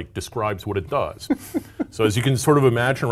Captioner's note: laugh